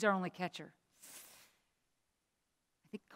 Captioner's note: inhales sharply